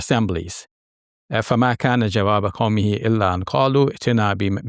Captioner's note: speaks Arabic